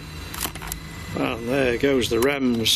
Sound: device beeps

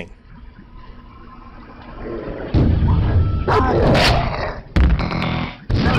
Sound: electronic sounds, and dogs growling

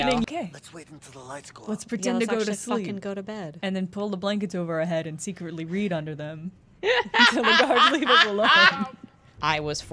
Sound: laughter

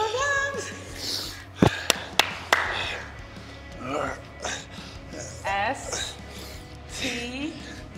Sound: laugh

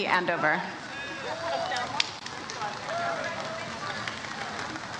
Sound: audience applauds

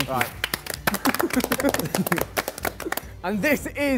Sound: Sidemen clap

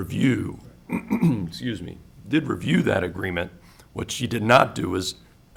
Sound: clears throat

